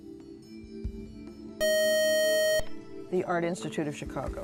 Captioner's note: buzzer